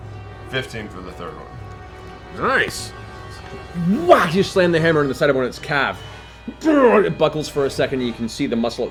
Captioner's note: whack